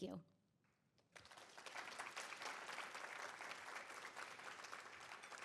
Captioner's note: audience applauding